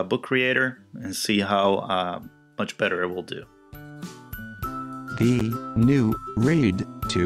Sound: text to speech, reading slowly

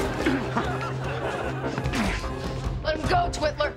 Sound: grunting

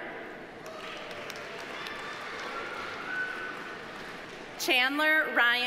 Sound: audience applauding

